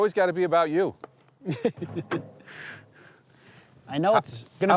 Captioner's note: laughs